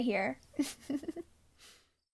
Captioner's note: giggles